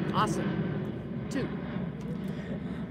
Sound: airplane engine

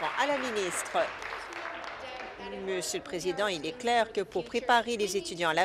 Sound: applause

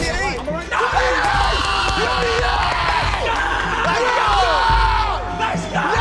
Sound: group cheers "let's go!

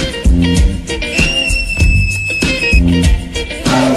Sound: fanboy screeeeech!

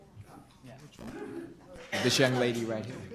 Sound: group chatter

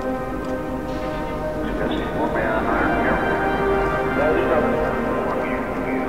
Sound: muffled voice over loud speaker

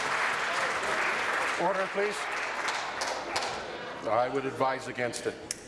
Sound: applause

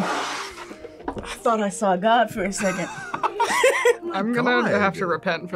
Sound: laughs

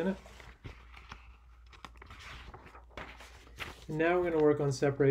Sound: papers rustling

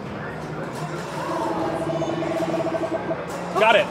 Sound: Jeep warbling

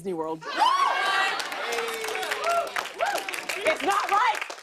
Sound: cheering

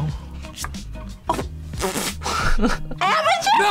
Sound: laughs

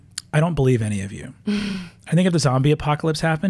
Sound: laughs

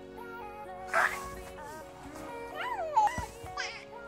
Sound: laugh

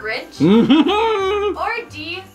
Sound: Grinch laughs

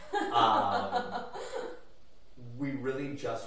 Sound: laughing

